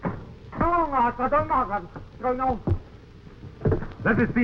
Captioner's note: man speaking in foreign language